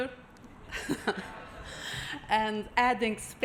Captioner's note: laughs